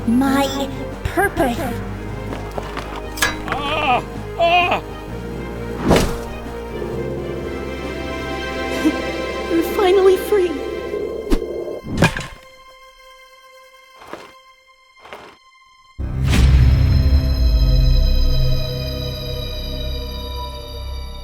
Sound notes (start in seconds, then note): 2.1 running; 5.8 crash; 6.5 triumphant music; 11.9 thud; 15.7 unnerving music